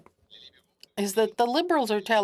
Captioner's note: speaking French